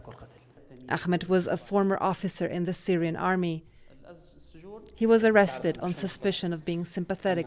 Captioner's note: voice-over